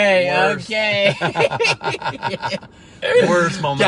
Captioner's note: laughs